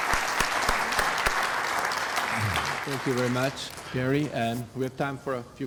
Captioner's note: applause